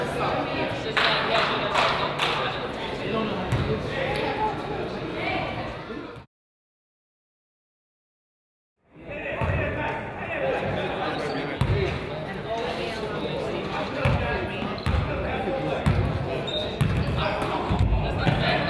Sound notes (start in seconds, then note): 0.9 team claps; 9.7 crowd chatters